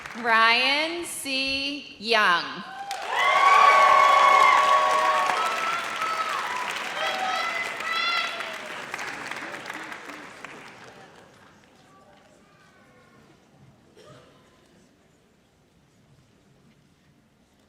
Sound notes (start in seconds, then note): 2.6 audience cheers